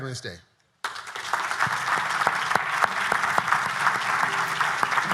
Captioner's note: everyone applauding